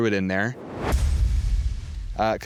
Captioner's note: whooshing